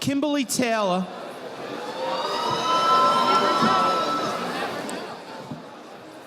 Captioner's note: audience applauding